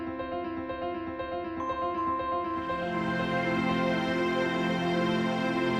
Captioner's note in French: none